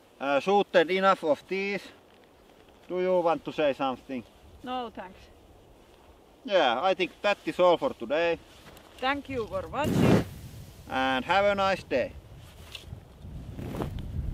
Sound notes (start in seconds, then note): 9.8 low whoosh; 13.2 low whoosh